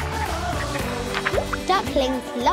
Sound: water plop

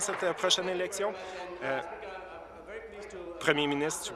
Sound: applause

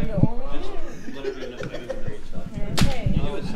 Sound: laughing

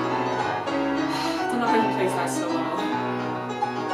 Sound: sighs

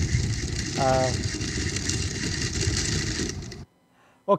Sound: feet clatter

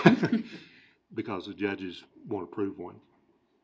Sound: laughing

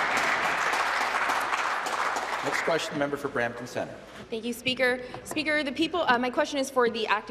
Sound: applause

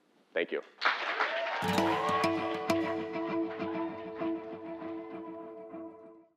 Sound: applause

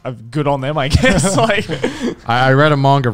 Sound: laughing

